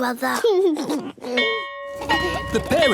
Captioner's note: bell ringing; giggles